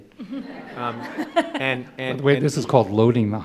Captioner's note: laughter